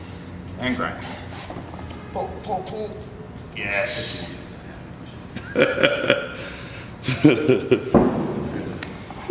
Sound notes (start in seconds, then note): 7.0 laughs